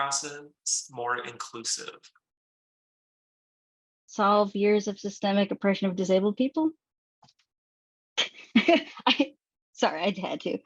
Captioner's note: laughs